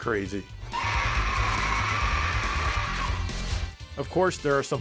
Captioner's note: flower screaming